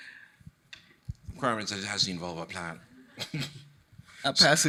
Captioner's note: chuckles